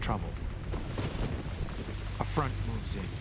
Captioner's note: thunder roaring